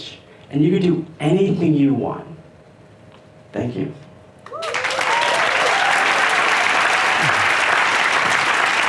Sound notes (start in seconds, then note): 4.4 applause